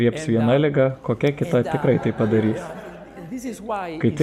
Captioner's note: laughter